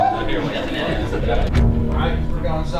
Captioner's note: more chatter; players are makng a whooping sound